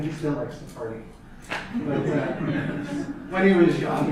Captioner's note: audience laughter